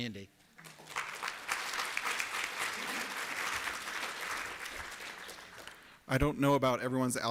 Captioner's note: applause